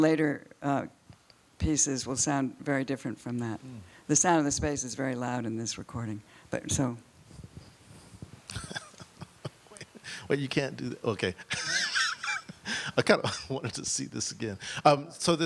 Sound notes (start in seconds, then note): 8.5 laughs; 11.5 laughs